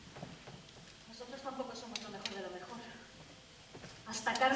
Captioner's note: Spanish